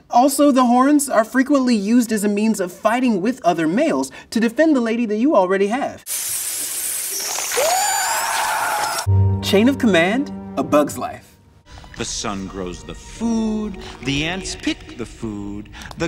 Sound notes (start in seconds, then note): 6.1 scarabs hissing; 7.7 man with torch yelling